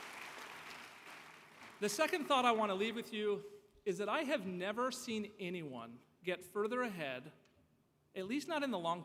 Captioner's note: applause